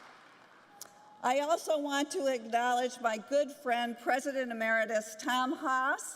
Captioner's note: applause